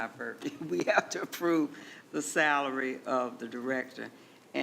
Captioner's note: chuckling